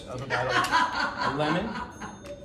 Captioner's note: laughs